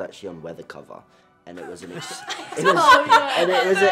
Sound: all laugh

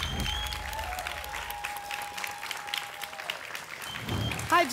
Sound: applause and cheering; whoosh

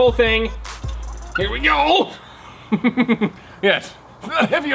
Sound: laughs menacingly

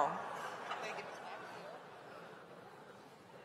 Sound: laughter

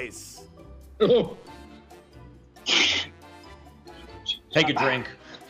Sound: laughs, sighs

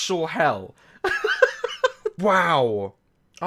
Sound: laughs

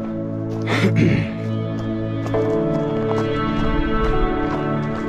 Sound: clearing throat

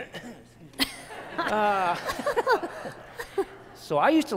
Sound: laughter

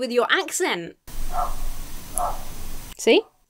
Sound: dog barks

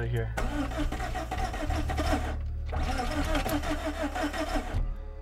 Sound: car struggling to start

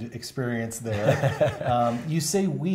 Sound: laughter

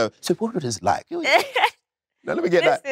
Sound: Letitia laughs

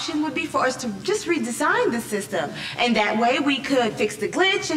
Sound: none

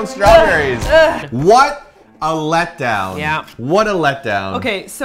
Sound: punch effects

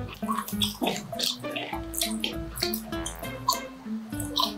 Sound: laughs

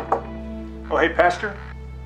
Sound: soft knocking

